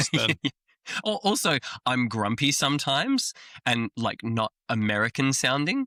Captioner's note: laughs